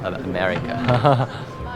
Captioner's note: light laughter